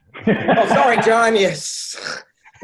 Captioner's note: laughing